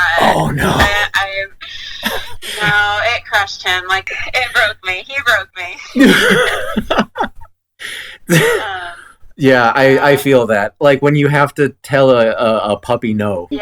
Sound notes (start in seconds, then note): 1.7 takes breath; 5.8 laughs